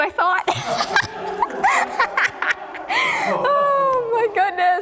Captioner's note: laughs